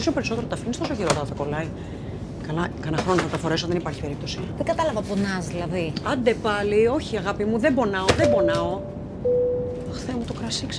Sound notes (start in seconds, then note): 0.2 flight attendant and Vanina speaking foreign language; 8.2 airplane beeps; 9.9 flight attendant and Vanina speaking foreign language